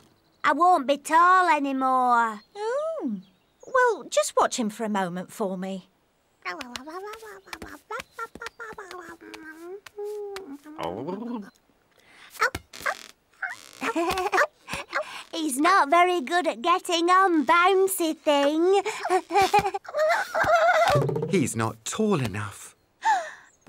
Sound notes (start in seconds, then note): 6.4 babbles happily; 11.7 purrs; 18.7 laughs